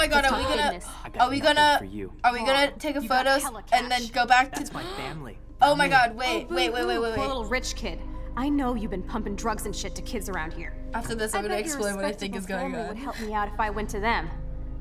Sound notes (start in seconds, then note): 4.6 gasping